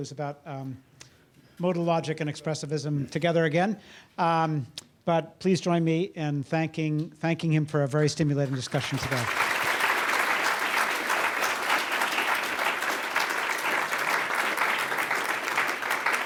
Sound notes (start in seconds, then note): 8.4 audience applauds